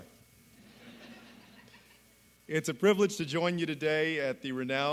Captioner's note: laughter